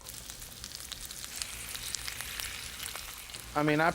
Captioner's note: food sizzling